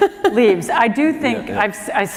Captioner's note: laughter